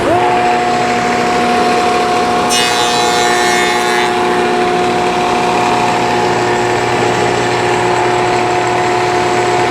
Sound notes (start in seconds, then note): 1.1 whirring